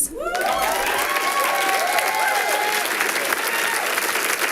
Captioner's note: audience applauding